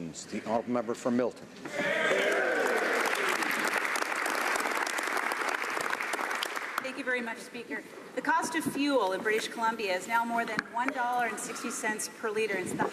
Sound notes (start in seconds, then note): 5.5 some Applause